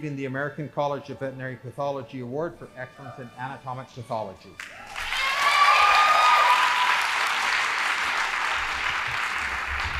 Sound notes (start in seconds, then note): 4.6 audience applauding